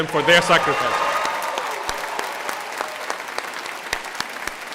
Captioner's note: applause